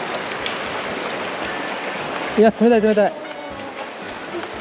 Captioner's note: water drops are dripping from the top